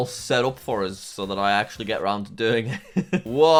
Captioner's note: laughs